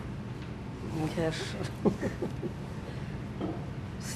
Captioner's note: laughing